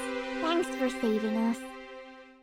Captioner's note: n-slash-a, in bot's voice